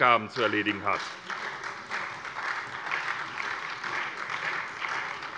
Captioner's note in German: Beifall bei der SPD